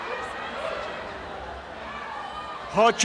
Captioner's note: applause and cheering